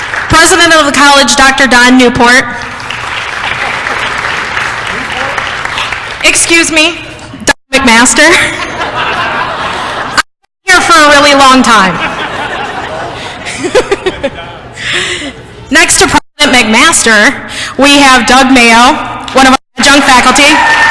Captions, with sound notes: President of the College Dr. Don Newport [applause] excuse me, Dr. Don MacMaster. I have been here for a really long time. [laughter] Next to President MacMaster we have Doug Mayo one of our adjunct faculty